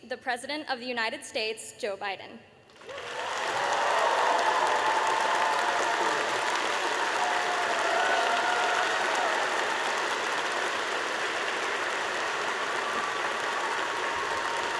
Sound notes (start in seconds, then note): 2.7 applause